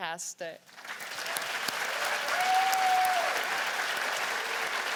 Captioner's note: cheers and applause